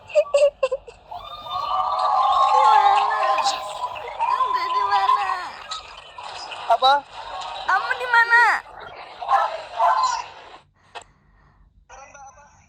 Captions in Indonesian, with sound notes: [tertawa] Di mana? [bersorak] Di mana apa kamu? Di mana?